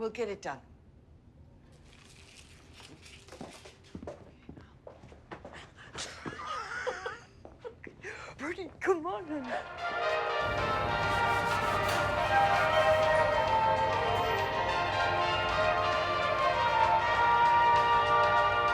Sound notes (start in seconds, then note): 5.9 giggling; 10.4 upbeat music